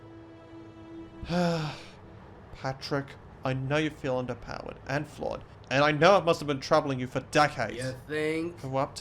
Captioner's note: sighs